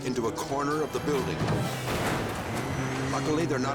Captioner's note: car crashing